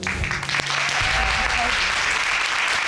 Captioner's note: applause